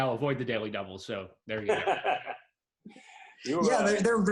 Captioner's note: laughs